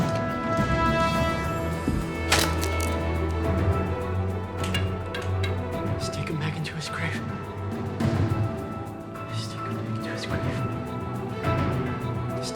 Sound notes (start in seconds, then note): 0.2 intense dramatic music; 2.0 sticks snaps; 4.2 intense dramatic music; 8.3 intense dramatic music